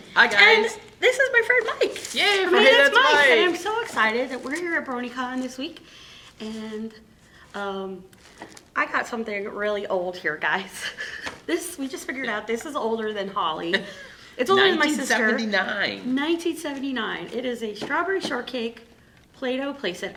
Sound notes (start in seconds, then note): 11.1 laughing; 13.8 laughing